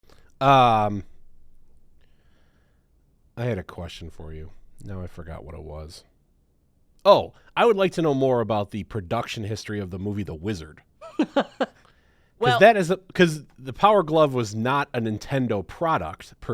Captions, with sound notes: - I had a question for you. Now I forgot what it was. Oh, I would like to know more about the production history of the movie The Wizard. (chuckles) - Well. - That is, 'cause the Power Glove was not a Nintendo product